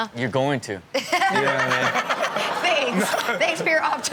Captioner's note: Chanel laughs